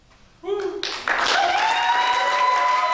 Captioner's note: applause